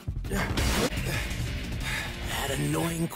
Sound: Aizawa breathes heavy; Aizawa grunts

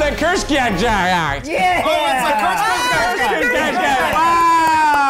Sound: cheering

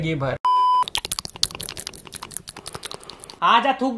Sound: some weird mouth sloshing noise

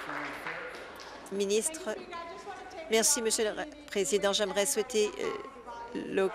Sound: applause

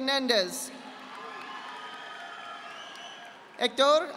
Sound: audience applauding

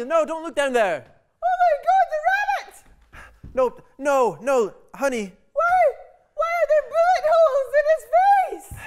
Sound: screams

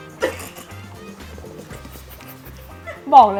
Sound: holding laughter

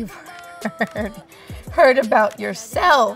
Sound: laughs

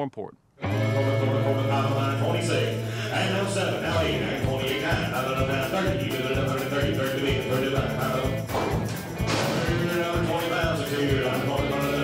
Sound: auctioneer speaking rapidly

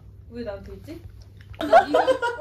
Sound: laughing

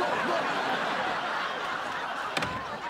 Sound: laughter

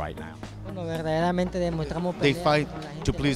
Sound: speaks spanish

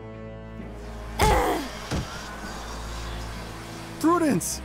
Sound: intense dramatic music; flies buzzing; groans

